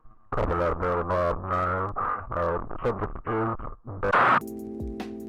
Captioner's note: police chatter